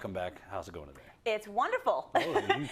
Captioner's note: laugh